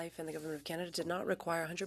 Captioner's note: speaking French